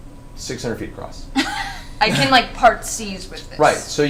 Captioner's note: all laugh